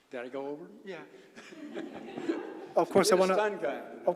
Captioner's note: laugh